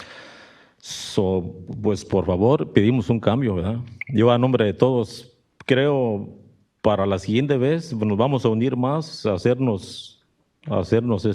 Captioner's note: speaks Spanish